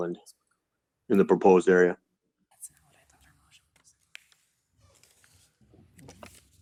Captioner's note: whispering